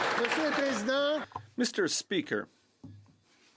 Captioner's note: speaking French